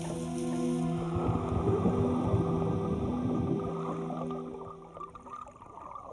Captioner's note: underwater swimming sounds